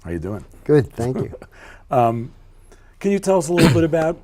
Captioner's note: laughing